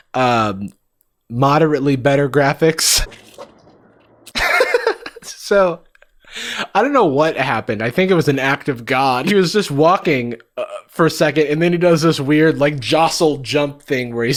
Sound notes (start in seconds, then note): 4.3 Jarvis laughing